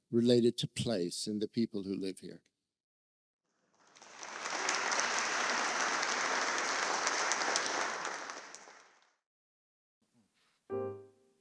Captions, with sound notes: related to place in the people who live here. (audience clapping)